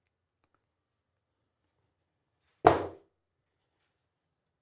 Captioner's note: wood Thuds